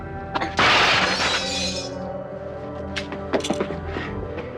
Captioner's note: glass shattering